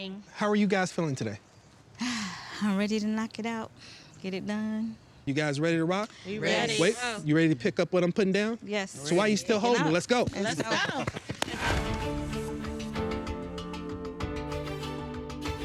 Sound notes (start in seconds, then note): 11.5 all applauding; 11.8 gentle music